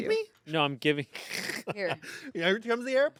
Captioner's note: laughs